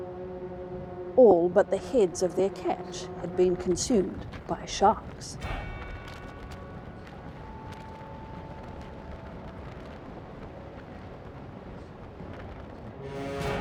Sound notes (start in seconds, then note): 7.8 cinematic music; 9.6 wind and waves